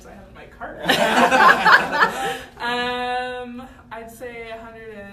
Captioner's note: laughter